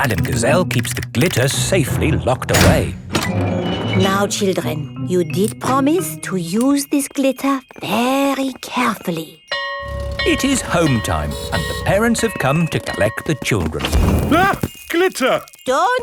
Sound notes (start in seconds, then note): 9.5 school bell ringing